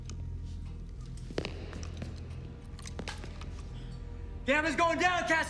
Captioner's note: footsteps tapping